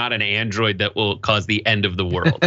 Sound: laugh

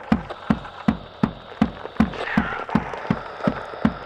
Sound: man On Radio

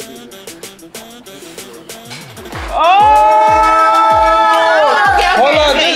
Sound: air swooshing

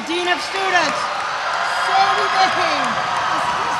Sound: audience cheers

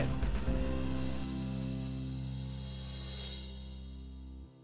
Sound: swoosh sound

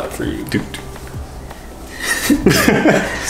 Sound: humming; laughing

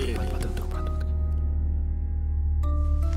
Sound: whispering

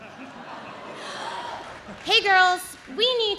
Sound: audience laughs

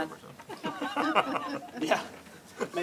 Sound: laughs; laughter

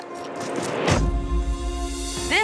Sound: slams door

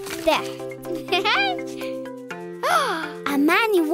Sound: laughing

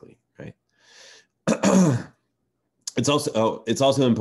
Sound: clears throat

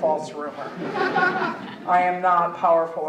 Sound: audience laughing

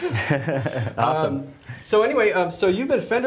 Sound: laughs

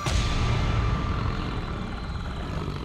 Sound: low growling

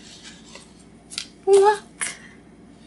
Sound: in sing- song voice

